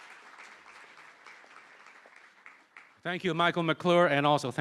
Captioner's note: applause